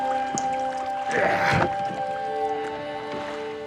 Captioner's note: grunting